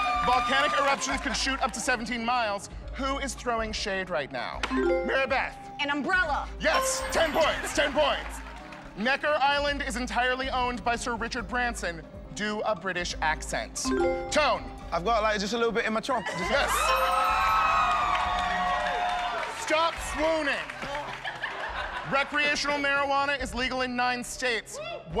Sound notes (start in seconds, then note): 6.6 laughter; 14.3 British accent; 16.1 cheers and applause; 19.3 laughter